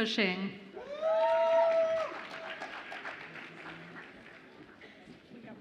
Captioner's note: audience applauds and cheers